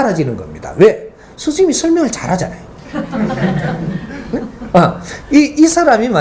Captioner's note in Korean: 웃음